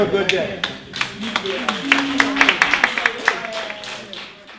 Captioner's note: applause